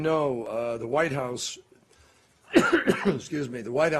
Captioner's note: coughs